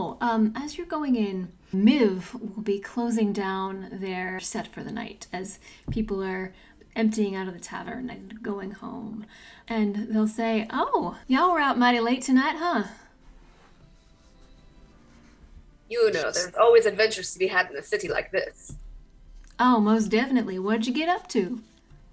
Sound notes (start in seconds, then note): 10.3 Appalachian accent